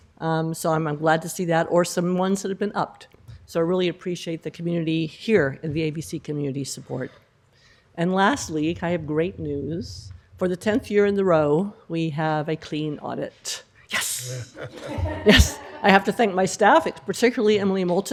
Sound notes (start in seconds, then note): 14.4 laughter